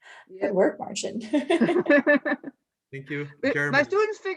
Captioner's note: laughs; all laugh